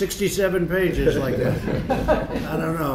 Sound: laughter

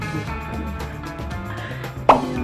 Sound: laugh

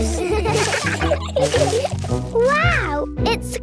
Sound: laughter

